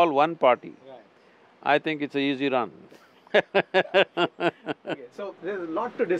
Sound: both laugh

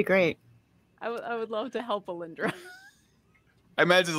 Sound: laughs

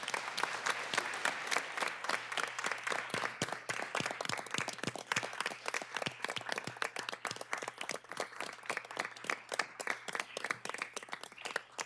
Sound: applause

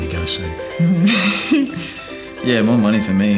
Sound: chuckles

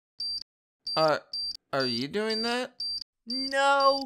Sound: steady beeping; beeping quickens; beeping really fast

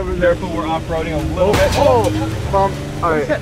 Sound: smashing

